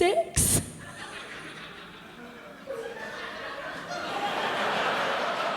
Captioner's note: laughter